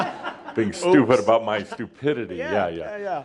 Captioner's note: some chuckles